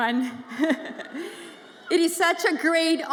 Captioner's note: chuckles